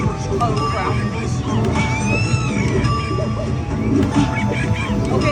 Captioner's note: monkeys chattering